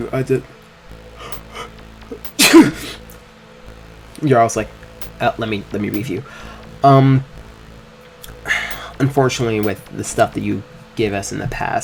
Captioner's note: sneeze